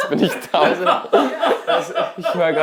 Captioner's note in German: Gelächter